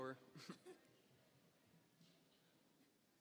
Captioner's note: laughing